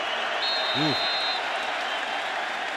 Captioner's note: whistle